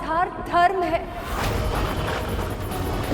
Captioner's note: thundering